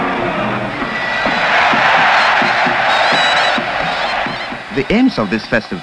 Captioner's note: crowd cheering; drumbeat music